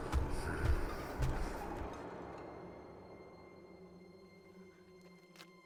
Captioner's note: footsteps thudding; tense music